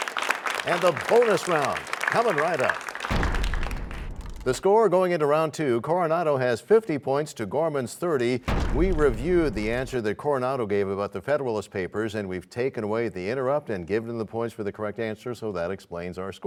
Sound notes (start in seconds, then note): 0.0 applause; 3.0 crashing sound; 8.4 crashing sound